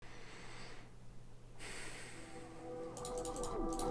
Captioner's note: inhale, exhale